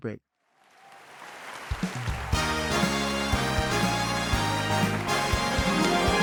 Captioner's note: audience applauds; upbeat music